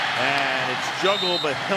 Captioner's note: cheering